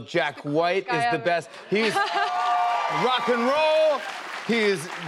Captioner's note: cheers and applause